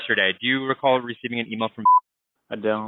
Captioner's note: beep